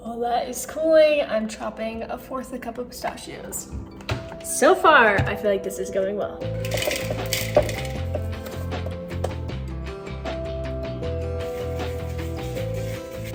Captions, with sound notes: While that is cooling, I'm chopping a fourth of a cup of pistachios. So far, I feel like this is going well. (pistachios rattling) (gentle music)